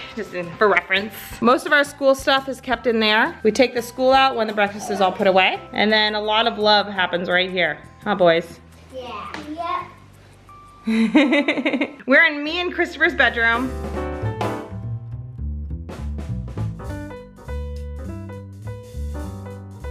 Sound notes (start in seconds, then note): 10.9 laughs; 13.7 upbeat music